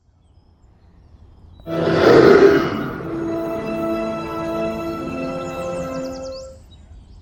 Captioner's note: beast roar